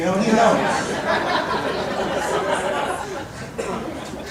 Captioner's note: audience laughing